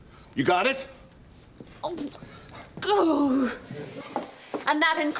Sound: <i>groans

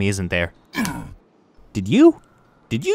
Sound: grunts

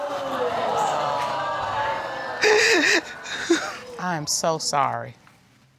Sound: sobbing; audience exclaiming

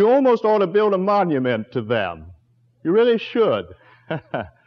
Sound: chuckle

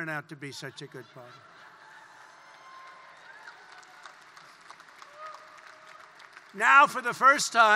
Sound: laughter and applause

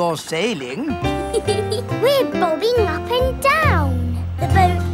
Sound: giggles

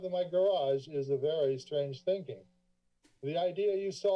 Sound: papers flipping

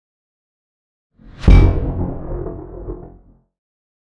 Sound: dramatic Whoosh

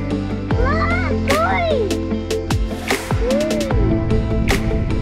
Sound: upbeat music plays; shouts

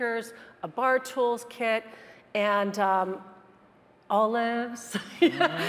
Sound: laughs

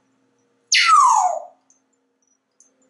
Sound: loud whistle

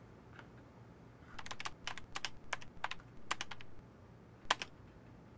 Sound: typing

